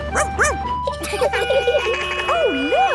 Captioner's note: barks; sirens sounding; laughing